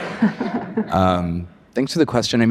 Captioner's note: audience laughs